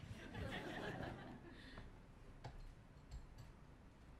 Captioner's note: laughter